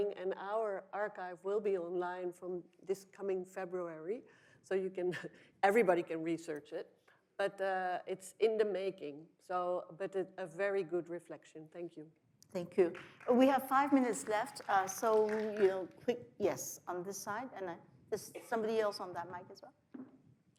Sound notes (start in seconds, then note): 12.9 audience applauds